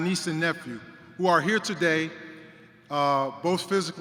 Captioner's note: none